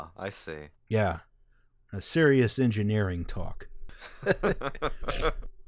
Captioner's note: laughter